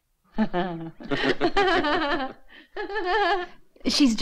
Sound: laughing

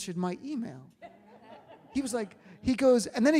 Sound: audience laughs

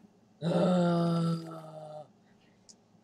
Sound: groans

